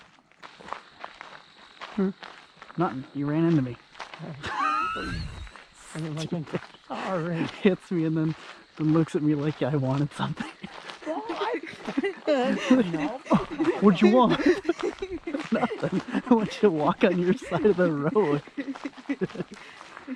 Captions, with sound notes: hmm? nothing you ran into me. [laughing] hits me and then looks at me like I wanted something [laughing] huh? what did you want? nothing i want you to walk on your side of the road.